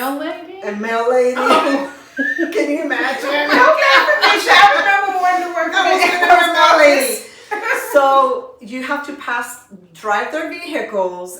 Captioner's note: laughter